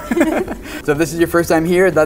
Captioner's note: laughing